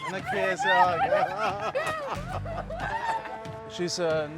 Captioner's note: laughs